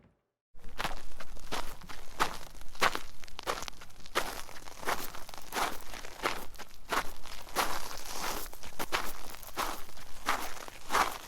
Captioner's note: footsteps